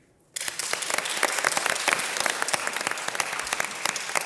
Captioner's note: audience applause